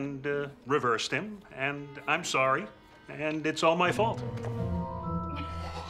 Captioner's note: heavy laughter